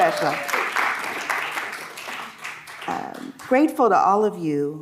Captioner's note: audience clapping